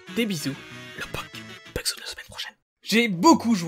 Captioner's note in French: chuchote